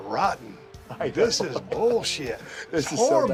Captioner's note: laugh